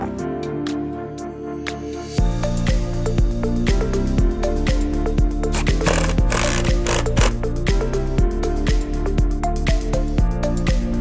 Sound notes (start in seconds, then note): 5.4 tool whirring; 7.8 bright upbeat music